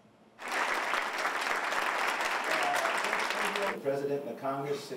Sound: applause

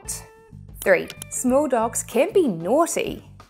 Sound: graphics clicking

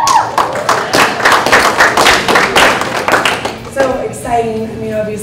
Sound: applauding

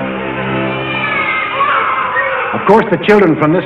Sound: babies crying

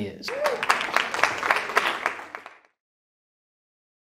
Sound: audience applauding

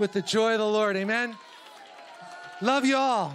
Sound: congregation cheering

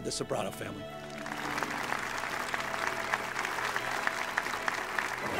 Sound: audience clapping

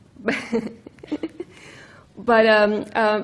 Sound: laughs

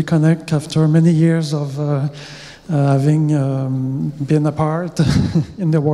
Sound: laughs

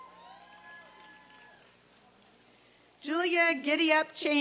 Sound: applause and cheering

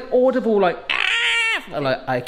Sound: screaming

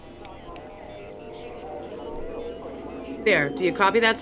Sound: distorted sounds over the radio

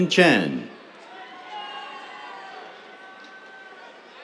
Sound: cheers

